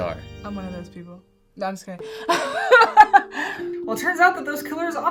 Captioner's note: laughs